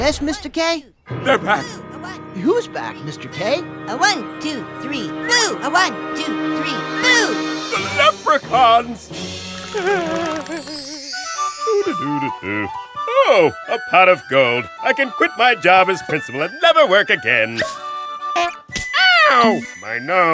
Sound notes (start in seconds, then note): 7.7 frightened whimper; 9.2 humming